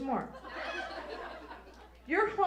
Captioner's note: audience laughs